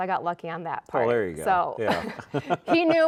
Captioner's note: laughing; chuckles